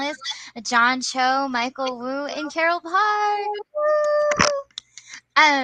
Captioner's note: cheers